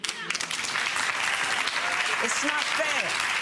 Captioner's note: audience applauding